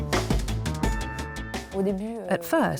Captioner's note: non-english speech